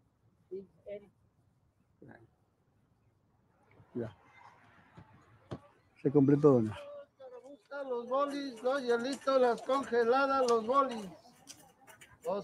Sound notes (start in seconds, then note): 0.3 woman 1 speaking in foreign language; 6.0 speaking in foreign language